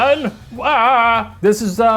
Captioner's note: screams